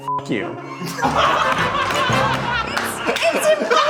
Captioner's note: beep; group laughing